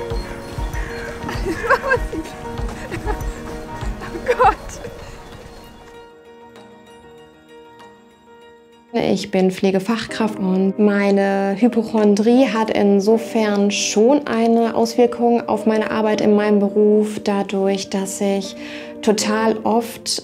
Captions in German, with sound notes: (Lachen) (lachend:) O Gott! (Unruhige Musik) Ich bin Pflegefachkraft, und meine Hypochondrie hat insofern schon eine Auswirkung auf meine Arbeit in meinem Beruf, dadurch, dass ich total oft ...